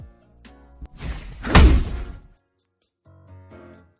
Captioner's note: swoosh, Thud